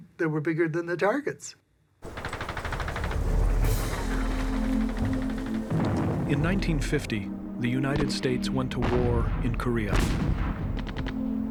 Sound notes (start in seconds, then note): 2.0 guns firing